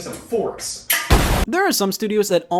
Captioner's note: washing machine explodes